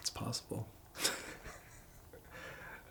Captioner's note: giggles